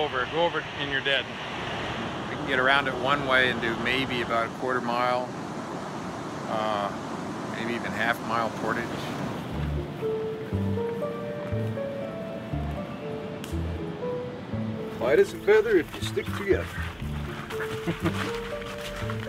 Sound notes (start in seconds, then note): 9.9 soft music; 14.8 footsteps crunching; 16.9 soft music